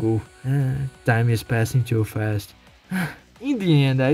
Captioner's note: sigh